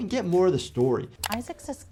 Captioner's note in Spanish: clic del mouse